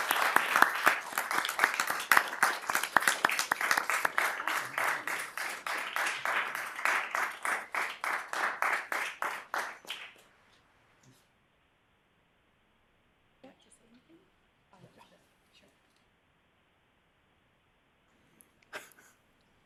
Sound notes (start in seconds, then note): 7.6 applause